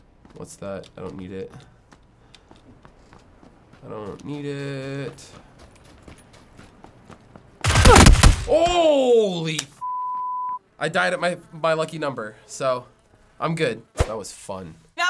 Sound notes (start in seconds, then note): 7.6 gun fires rapidly